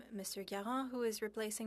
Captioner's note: speaking French